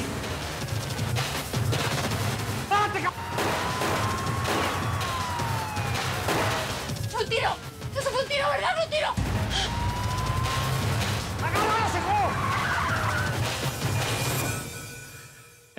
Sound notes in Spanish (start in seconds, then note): 2.1 ráfagas de ametralladora; 5.1 sirenas; 5.2 siguen los disparos; 9.4 sirenas; 12.8 rechinan las llantas